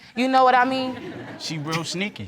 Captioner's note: light laughter